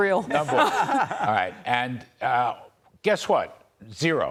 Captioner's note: laughter